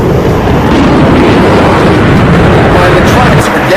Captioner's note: airplane engine roars